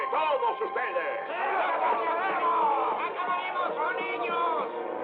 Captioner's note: all Shouting